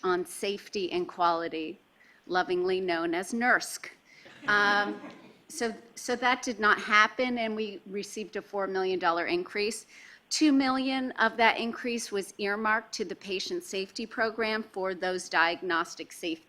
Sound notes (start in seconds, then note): 4.3 laughing